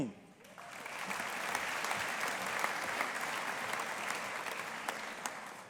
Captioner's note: audience applauding